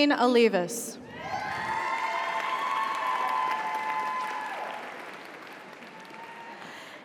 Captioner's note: audience cheers; audience applauds